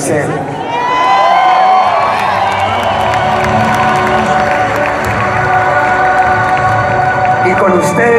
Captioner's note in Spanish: aplausos